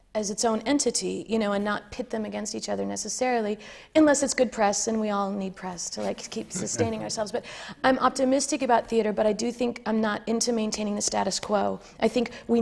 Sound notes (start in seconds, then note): 6.5 laughter from the panel